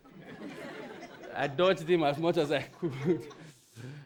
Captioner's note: audience laughs